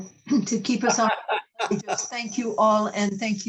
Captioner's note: laughter